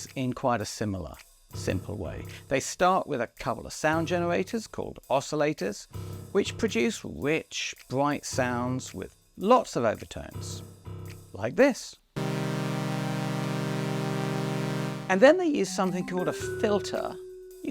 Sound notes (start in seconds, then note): 12.2 sound of raw oscillator waveform